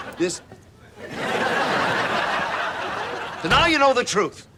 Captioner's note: audience laughs